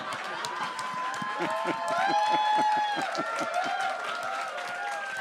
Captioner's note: audience cheers